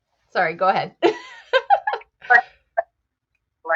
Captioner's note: laughs